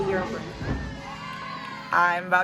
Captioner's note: team cheering